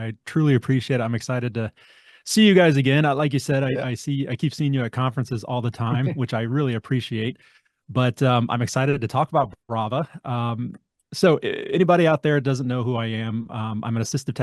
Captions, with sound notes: I truly appreciate it. I'm excited to see you guys again. Yeah. Like you said, I, I see, I keep seeing you at conferences all the time. (laughs) Which I really appreciate. But, um, I'm excited to talk about Brava. Um. So, anybody out there that doesn't know who I am, um, I'm an assistive